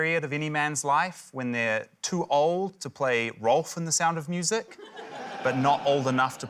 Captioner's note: laughter